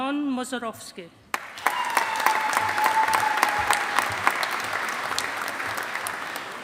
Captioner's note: audience applauding